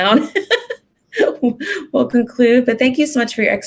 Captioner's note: laughing